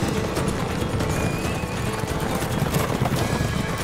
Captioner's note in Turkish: At kişniyor